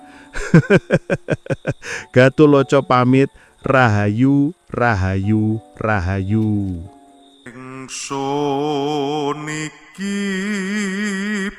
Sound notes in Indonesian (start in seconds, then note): 0.3 tertawa